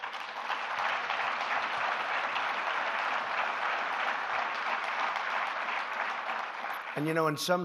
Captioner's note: applause